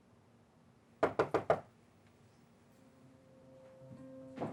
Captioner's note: fist knocking